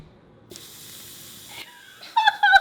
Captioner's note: sizzles; laughs